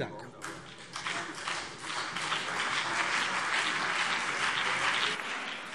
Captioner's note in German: Beifall CDU und BÜNDNIS 90/DIE GRÜNEN